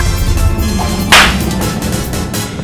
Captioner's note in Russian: шлёп